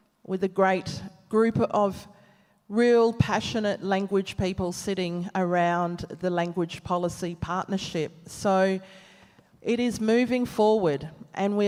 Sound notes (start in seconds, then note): none